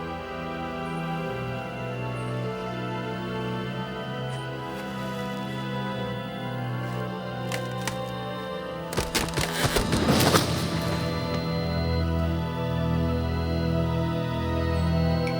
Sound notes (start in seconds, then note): 6.8 tree branch cracking; 8.8 tree branch crashing to the ground